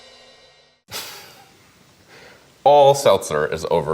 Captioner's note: laughs